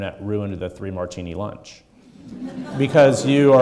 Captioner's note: audience laughing